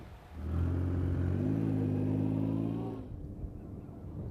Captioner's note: engine revving